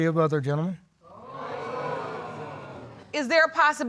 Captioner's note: audience exclaiming